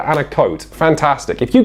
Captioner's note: sarcasm